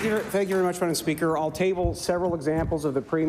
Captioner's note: applause